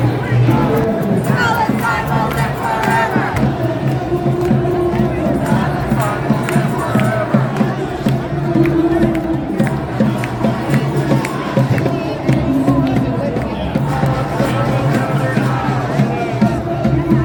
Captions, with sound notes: [chant] Palestine will live forever.